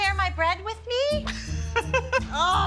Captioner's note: laughter